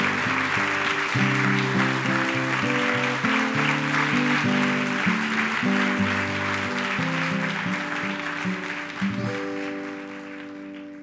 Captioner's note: applause; applause and music